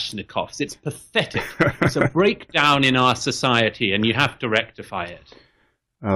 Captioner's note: Harris laughs